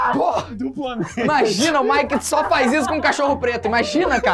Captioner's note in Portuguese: risadas